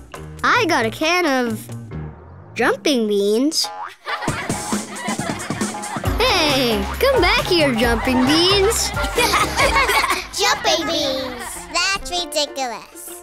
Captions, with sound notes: I got a can of... jumping beans? [laughing] Hey! Come back here, Jumping Beans! [laughing] Jumping beans. That's ridiculous.